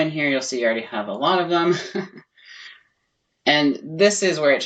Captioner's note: chuckling